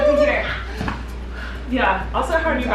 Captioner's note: mumbling in disbelief